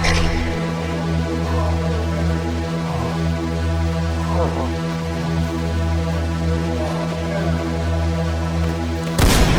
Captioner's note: still breathing heavily; gunshot